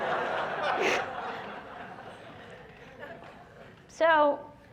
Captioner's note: laughter